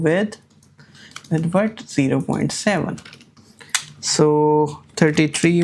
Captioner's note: keyboard clicking